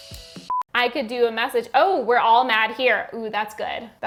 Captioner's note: screen beeps